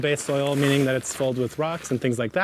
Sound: bag crinkles, soil thumps

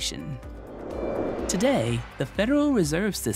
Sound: frame whooshes

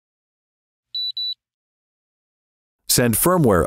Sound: beeping

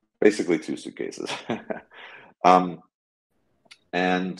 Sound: chuckling

